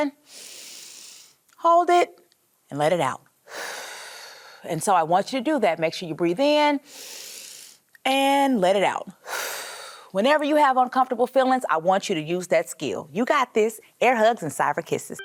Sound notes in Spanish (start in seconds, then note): 0.2 inhala profundamente; 3.5 Silbido de respiración; 6.9 inhala profundamente; 9.2 Silbido de respiración